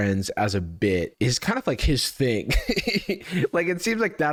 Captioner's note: laughs